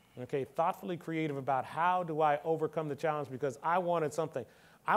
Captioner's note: none